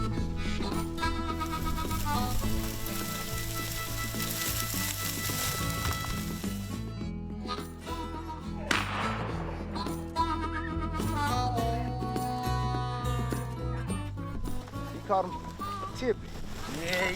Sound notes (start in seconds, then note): 2.2 grass rustling; 8.6 gun fires